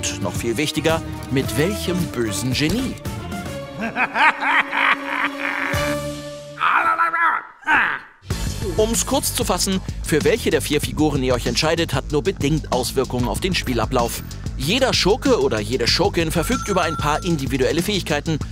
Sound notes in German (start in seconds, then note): 3.7 Böses Ingamelachen; 6.4 Grimmige Ingamelaute